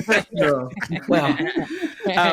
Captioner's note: laughter